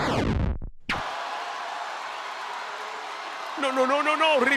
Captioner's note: applause